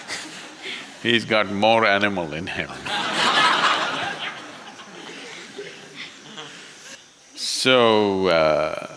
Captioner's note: laughter; laughter